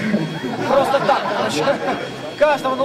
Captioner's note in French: rires